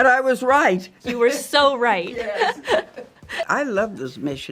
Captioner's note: laughs